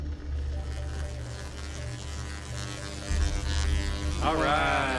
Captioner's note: electricity sparks